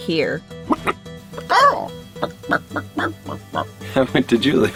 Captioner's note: chicken sounds